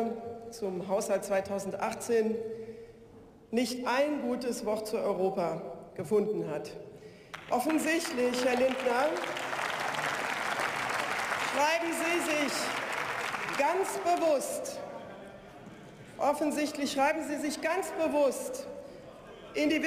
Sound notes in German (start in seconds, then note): 7.2 Beifall